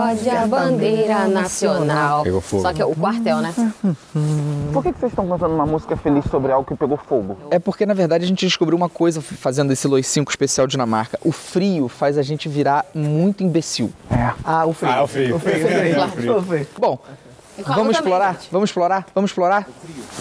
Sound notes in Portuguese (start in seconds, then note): 0.0 cantando; 3.8 cantarolando a música